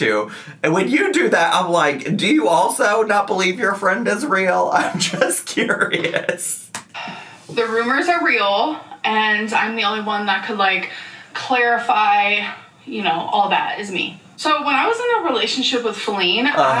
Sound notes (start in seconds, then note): 5.6 laughs